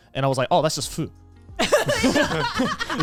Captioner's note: hosts laugh